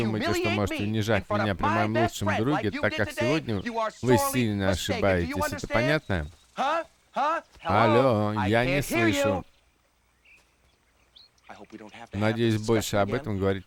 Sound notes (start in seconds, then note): none